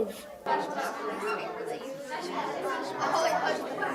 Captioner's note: group chatter